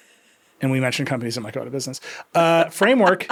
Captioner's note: laughing